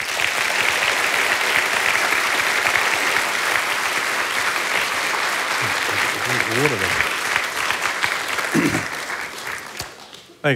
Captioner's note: applause